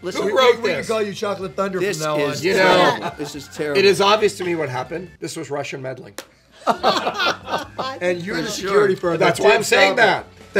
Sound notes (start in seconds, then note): 6.6 laughing; 7.1 arguing